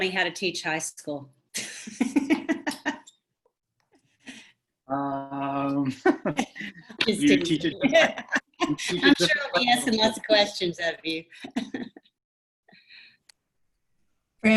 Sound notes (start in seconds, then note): 1.6 laughs